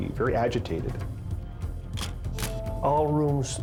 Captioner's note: camera shutter click